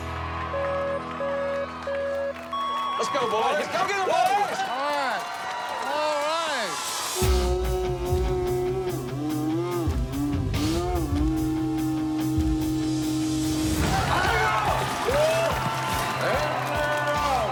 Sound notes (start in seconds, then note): 0.4 beeping; 6.7 slow motion yelling; 13.2 yelling